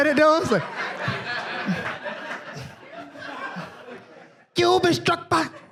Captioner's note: audience laughs